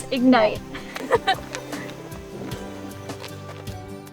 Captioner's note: girls giggling